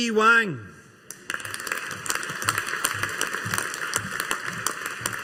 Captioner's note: audience applauding